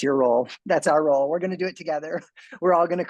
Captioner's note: chuckles